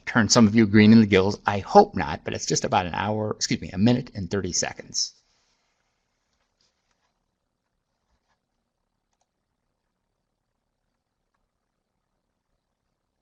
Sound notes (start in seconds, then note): 5.1 no sound - waiting to see if video loads